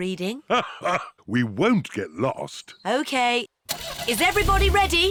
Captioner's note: laughs